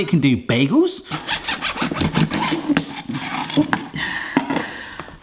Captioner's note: knife slicing